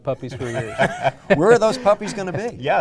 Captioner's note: laughter